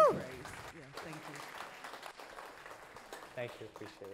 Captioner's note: audience applauding